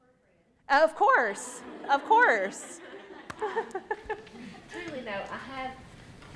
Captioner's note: laughs